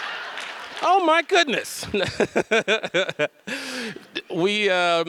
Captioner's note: audience laughs; laughs